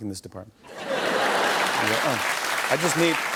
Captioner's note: laughter and applause